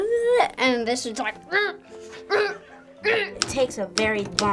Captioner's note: speaks gibberish; grunting